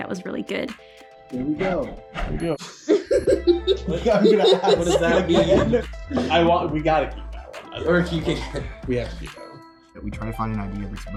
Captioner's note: laughing